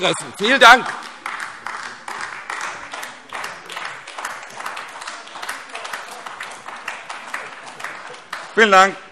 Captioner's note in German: Beifall AfD